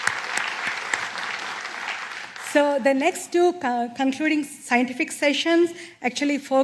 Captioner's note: applause